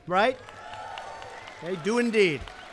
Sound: applause

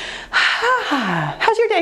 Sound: sighs

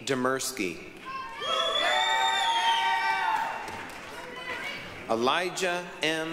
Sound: applause, cheering

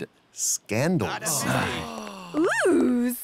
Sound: soldiers all exclaiming

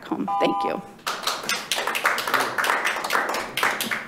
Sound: members clapping

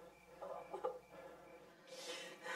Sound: whimpers

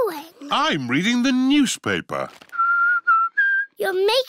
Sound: whistles

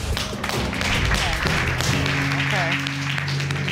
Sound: all applauding

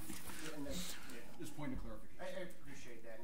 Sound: overlapping chattering

